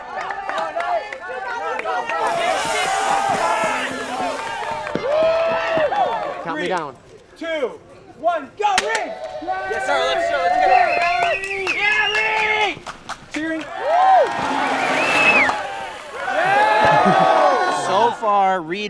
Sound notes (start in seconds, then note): 3.5 crowd cheering; 13.7 crowd cheering; 17.6 crowd murmuring